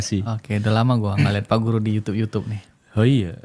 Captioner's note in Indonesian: berdehem